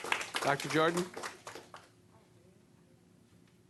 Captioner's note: applause